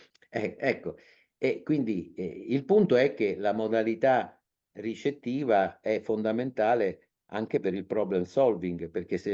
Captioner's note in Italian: sbuffare